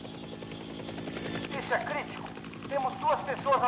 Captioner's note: soldier On Radio